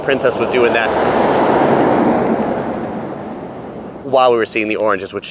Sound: traffic roaring

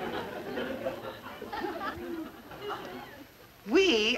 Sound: crowd laughter

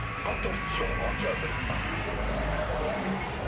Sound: Buzz's announcement repeats in French

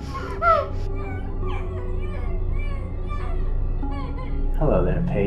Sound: muffled crying; muffled distant crying

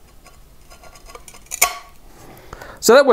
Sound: grinding and snapping

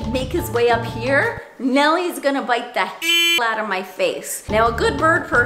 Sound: beep

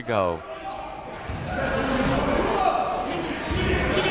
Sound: chatter

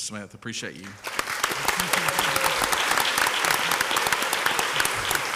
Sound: crowd applauds

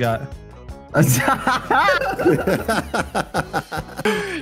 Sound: men laugh

